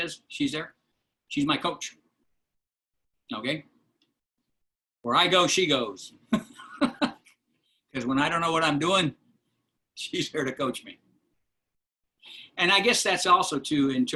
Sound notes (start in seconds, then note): 6.3 laughter